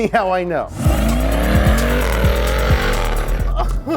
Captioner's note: car revs; giggling